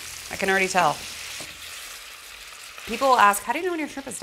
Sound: sizzling

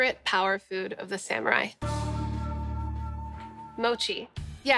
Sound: gong

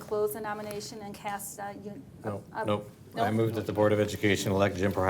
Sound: none

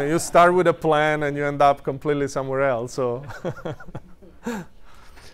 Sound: laughs

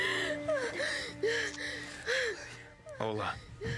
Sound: panting

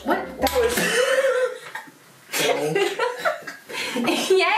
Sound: laughing

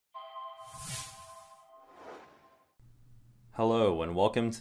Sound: logo sound

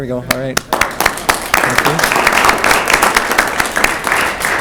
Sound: clapping

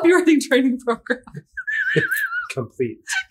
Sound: laughter

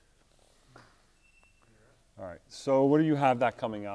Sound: camera beeps

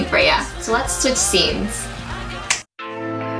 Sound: snaps

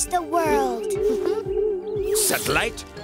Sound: chuckling

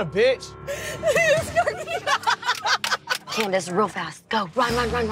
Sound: girls cackling

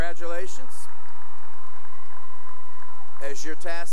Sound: cheering and applause

